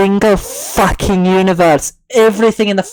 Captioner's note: scottish Accent